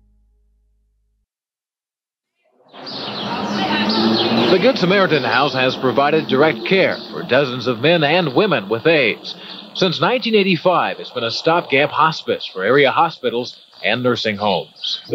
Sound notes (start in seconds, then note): 2.6 birds chirping